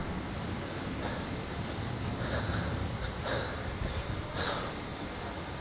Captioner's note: heavy breathing